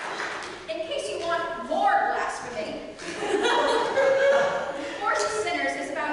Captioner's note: audience laughter